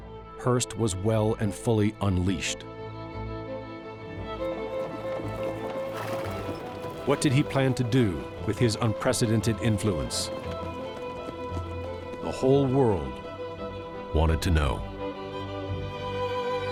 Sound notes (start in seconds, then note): 5.0 horse nickers